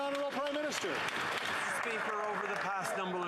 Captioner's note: some Applause